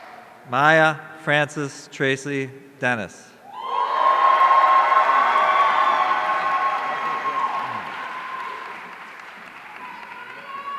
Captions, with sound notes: Maya Frances Tracey Dennis. (audience cheering)